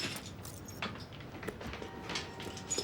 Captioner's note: keys clanking